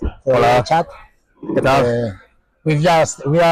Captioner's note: in Spanish